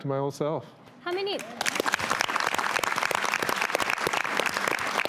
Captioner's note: everyone applauds